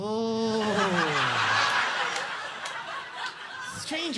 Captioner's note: audience laughing